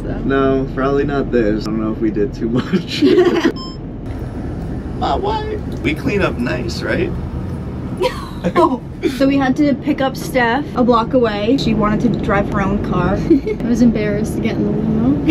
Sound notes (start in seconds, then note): 2.9 laughs; 8.0 laughs